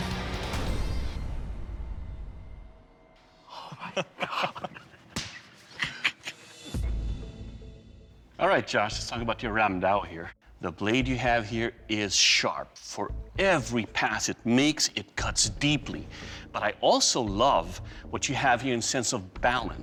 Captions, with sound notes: Oh, my god. [laughs] All right, Josh, let's talk about your ram-dao here. The blade you have here is sharp. For every pass it makes, it cuts deeply. But I also love what you have in the sense of balance.